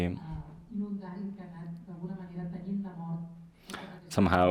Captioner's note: speaks in a foreign language